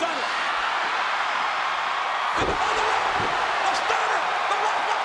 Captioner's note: audience cheering